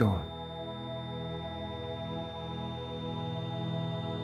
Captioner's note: beeping